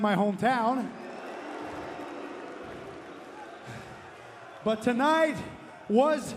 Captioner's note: crowd cheering